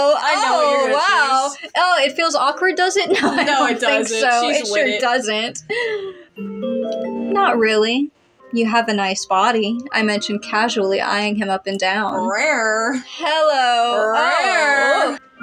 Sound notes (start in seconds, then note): 3.0 laughing; 5.6 inhale